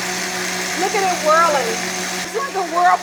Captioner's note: blender whirring